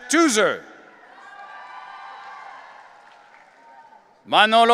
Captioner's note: audience cheering